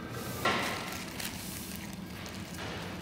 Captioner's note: rustling